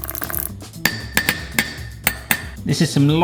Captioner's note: fork tapping